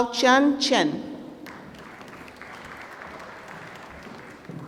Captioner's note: applause